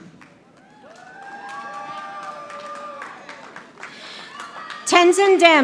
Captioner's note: audience applauding